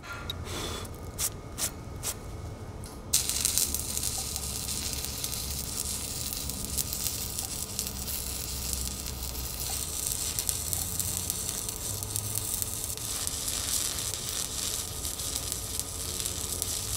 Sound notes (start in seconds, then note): 3.4 sharp buzzing